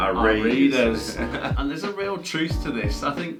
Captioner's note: laughs